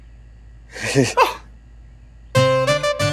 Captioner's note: Laughs